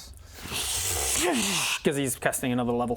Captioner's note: zzrrscshchrsssscscchhccshhhh